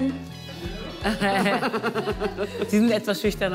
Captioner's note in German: Lachen